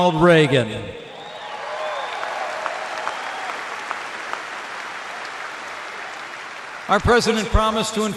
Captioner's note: applause